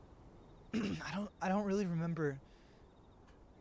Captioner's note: clears throat